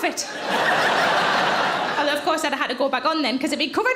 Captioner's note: audience laughing